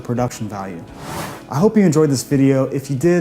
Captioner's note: whooshing